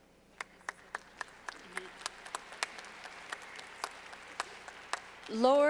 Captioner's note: clapping